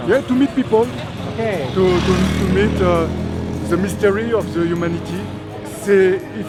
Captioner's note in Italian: Inglese